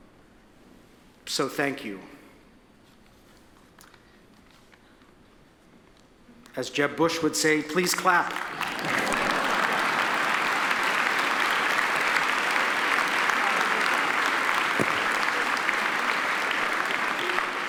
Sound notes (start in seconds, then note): 9.0 audience laughs; 10.3 audience applauds